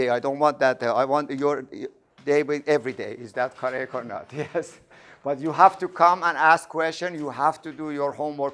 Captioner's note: laughing